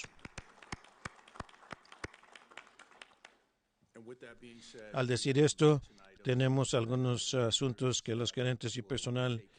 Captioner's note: applause